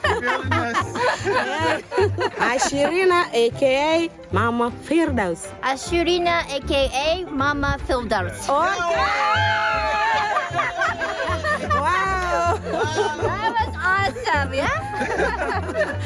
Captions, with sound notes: (laughing) Ashlina AKA Mama Fildouse! - Ashlina AKA Mama Fildouse. (cheering) - Wow. - That was awesome, ya?